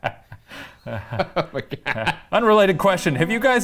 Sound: laugh; all laughing

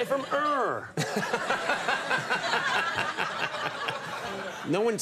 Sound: audience laughing

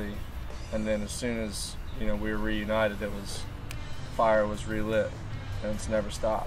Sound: snaps

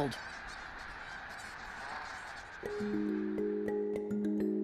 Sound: squawking

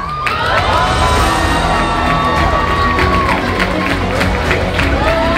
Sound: crowd cheers and applauds; uplifting music intensifies

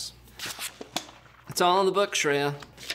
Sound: pages turning

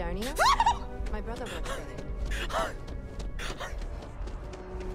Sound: feaful Panting

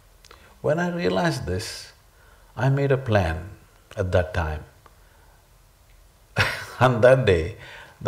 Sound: laughs

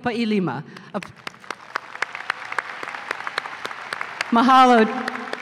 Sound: applause

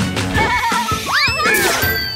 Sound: laughs

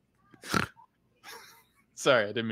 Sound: players laughing; snorts; laughing

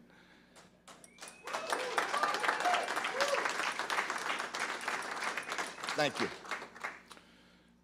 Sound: applause

